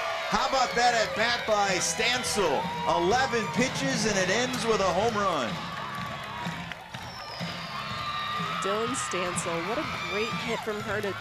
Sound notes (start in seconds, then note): 5.3 cheering